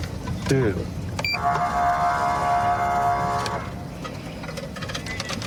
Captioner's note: horn blaring